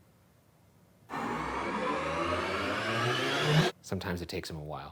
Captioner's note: air whirring